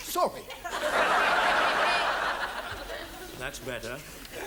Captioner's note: audience laughs